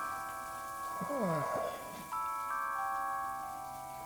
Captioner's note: man groans